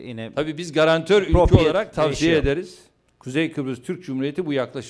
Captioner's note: non-english speech